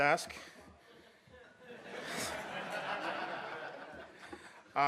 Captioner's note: audience laughs